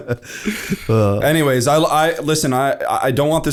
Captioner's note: laughter